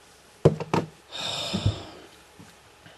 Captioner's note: sigh